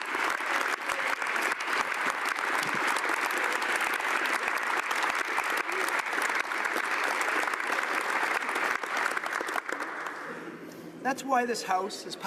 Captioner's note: applause